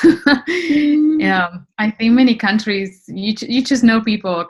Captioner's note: laughs